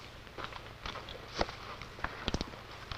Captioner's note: footsteps